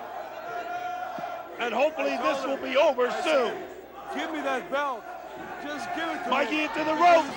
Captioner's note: crowd chatter